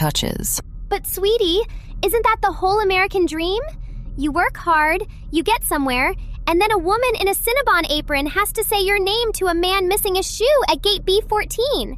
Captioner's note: playfully